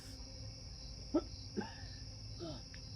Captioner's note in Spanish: los insectos chirrían